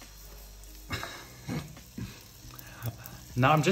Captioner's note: laughs